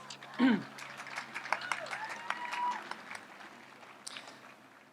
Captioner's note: audience applauds